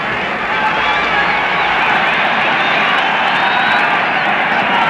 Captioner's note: crowd shouting